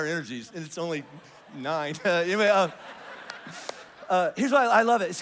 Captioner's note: congregation laughs